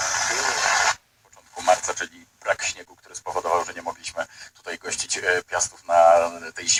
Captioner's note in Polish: radio